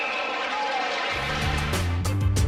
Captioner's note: crowd cheering